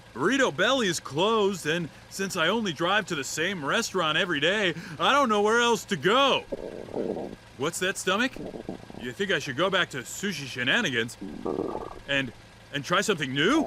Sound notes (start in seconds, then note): 6.4 stomach growling